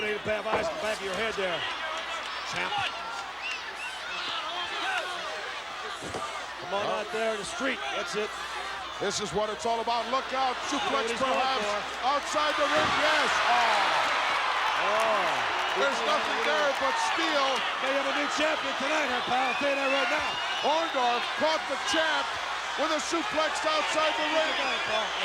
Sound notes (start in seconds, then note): 13.7 applause